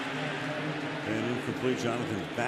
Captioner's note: pa announcement